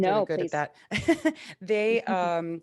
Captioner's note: chuckles